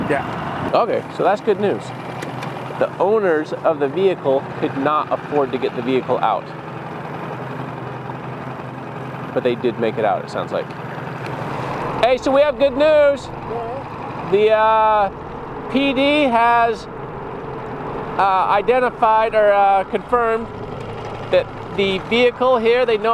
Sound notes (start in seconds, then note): 7.0 boat engine droning